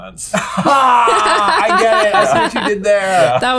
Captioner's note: laughs